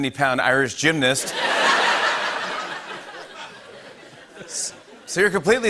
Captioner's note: laughter